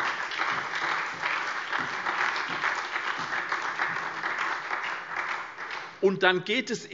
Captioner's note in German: Beifall SPD, BÜNDNIS 90/DIE GRÜNEN und vereinzelt CDU